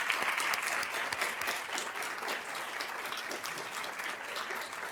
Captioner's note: applause